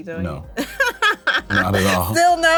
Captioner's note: laughs